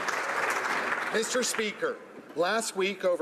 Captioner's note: applause